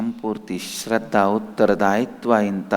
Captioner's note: hindi